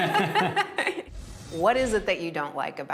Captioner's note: laughing